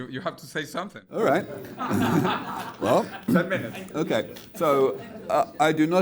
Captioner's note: audience laughs